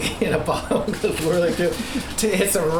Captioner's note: laughs